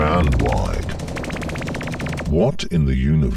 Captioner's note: guns firing